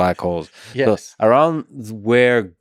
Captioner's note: Tim laughs